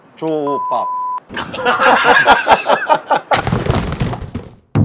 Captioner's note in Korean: 웃음